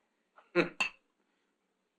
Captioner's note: chuckles